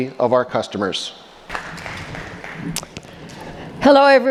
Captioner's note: audience applauding